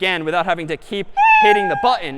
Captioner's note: meow